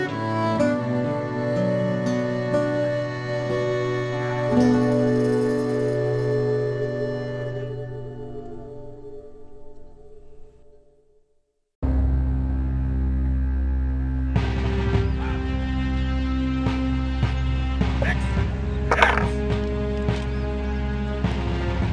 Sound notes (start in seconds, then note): 13.8 drums beat; 13.8 man shouts in the distance; 18.9 chess piece clatters